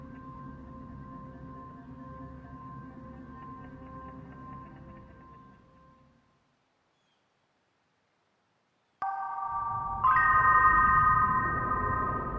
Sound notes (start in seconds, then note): 5.4 music stops